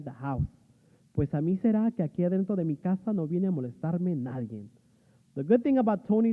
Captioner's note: speaking spanish